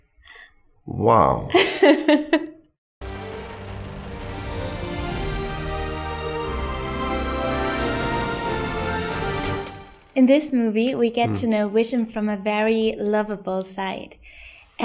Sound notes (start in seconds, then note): 1.0 laughing; 3.0 film reeling; 5.8 themed music